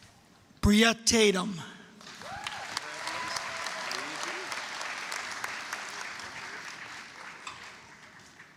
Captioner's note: applause, cheering